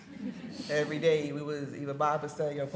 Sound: audience laughing

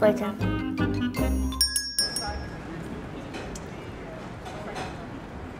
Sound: doorbell ringing

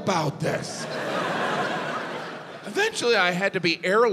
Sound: audience laughs

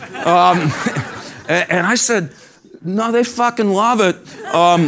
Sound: laugh; laugh

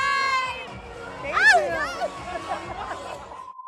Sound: laughs

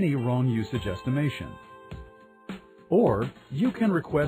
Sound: pause

